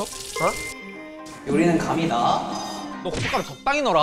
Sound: pouring

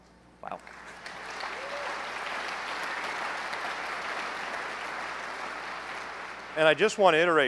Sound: applause

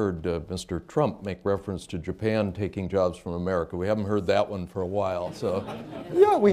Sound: laughter

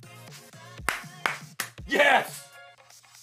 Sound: claps

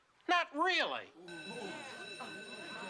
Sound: class bell rings

